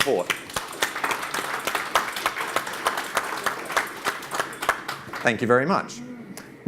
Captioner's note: audience claps